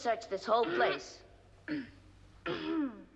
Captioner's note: clearing throat